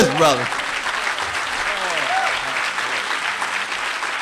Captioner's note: applause